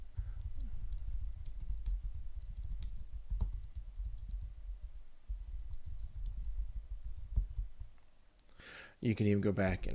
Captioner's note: typing on screen